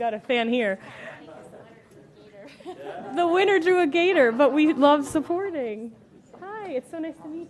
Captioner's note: laughter